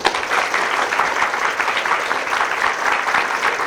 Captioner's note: applause